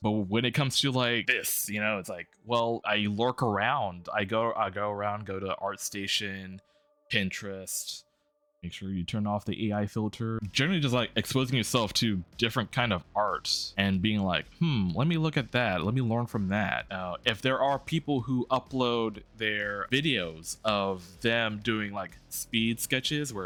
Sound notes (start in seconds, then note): 8.1 in Quiet Voice